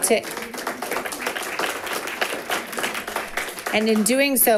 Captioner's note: people clapping